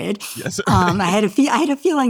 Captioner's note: laughs